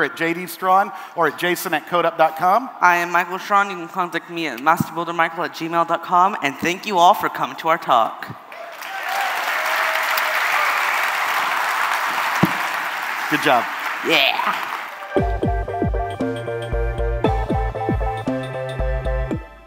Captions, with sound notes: >> Thank you all for coming to our talk! >> Good job. >> Yes! See you guys later. >> [Cheering and applause].